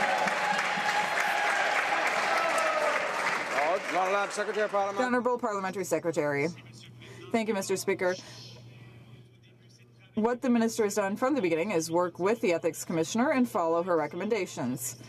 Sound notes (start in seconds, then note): 4.8 some Applause